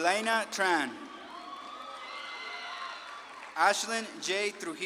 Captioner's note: audience claps and cheers